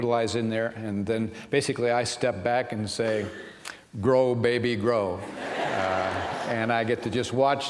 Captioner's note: laughter